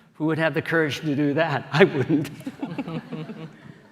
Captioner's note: laughter